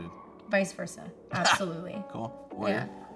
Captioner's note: laughs